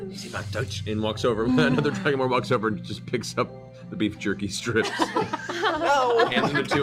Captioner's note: speaks Draconic